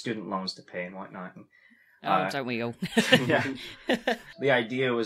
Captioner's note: laughs